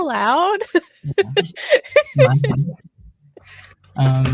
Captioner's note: laughs